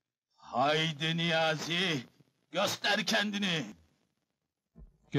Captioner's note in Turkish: coşkuyla